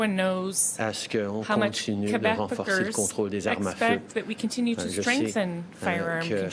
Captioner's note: speaking French